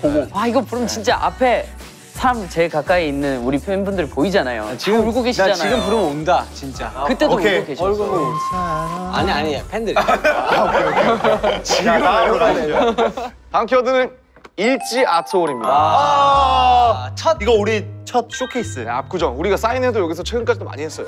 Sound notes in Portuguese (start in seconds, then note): 8.4 choro!; 10.7 envergonhado